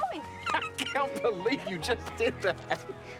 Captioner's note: laughs